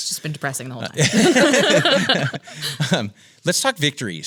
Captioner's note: laughs